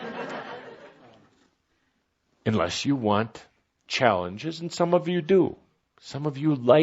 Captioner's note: some laughter